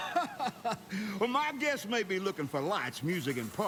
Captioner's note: laughs